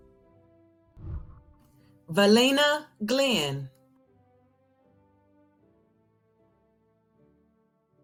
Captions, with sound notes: (whooshing) Valina Glenn. (celebratory music)